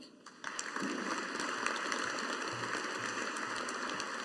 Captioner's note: audience applauding